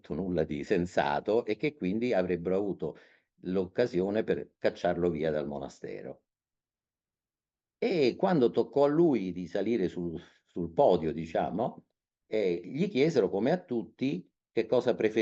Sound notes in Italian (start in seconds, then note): none